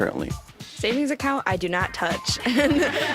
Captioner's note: laughs